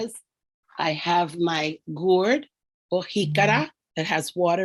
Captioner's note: speaking in foreign language